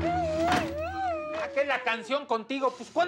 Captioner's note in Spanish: gritos ahogados